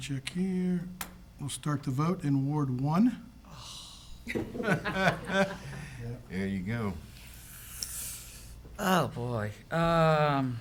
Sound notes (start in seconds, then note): 4.3 council members laugh